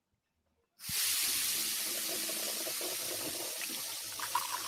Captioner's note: coffee machine steaming; coffee dripping